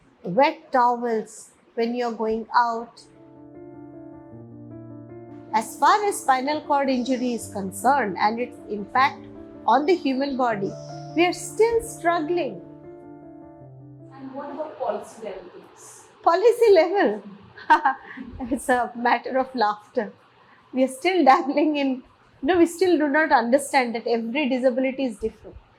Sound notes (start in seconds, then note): 17.2 laughs